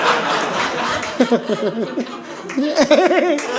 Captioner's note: audience laughing